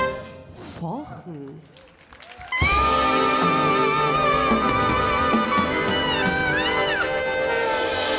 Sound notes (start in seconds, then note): 1.1 audience applauding; 1.7 audience cheering